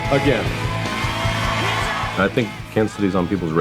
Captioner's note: applause